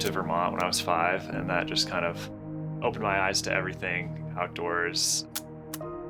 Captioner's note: camera clicking